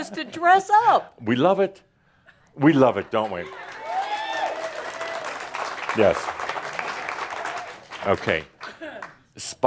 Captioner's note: audience applause